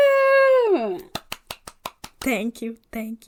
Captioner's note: clapping